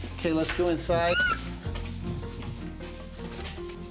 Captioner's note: eagle cawing